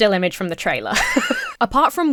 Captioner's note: Emma laughs